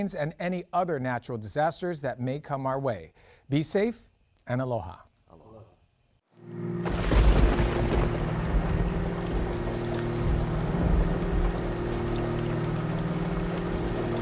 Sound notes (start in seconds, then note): 8.4 thunder rolling; 13.2 rain falling